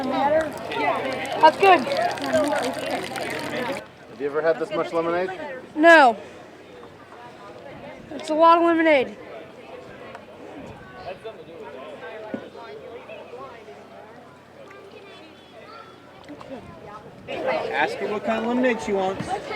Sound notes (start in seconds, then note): 7.7 chatter